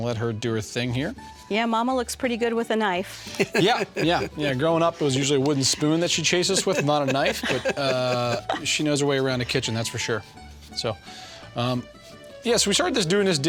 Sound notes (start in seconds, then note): 3.2 laughter; 8.2 laughter